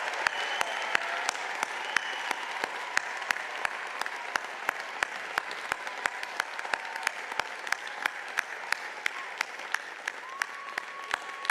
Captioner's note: cheers and applause